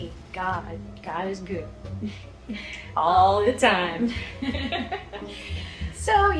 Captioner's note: laughs